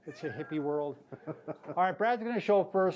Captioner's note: laughs